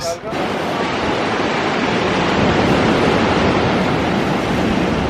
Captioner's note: waves rushing in